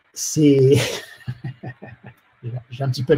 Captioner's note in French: rires